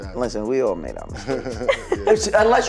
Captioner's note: laughing